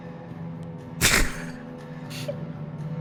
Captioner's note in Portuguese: risada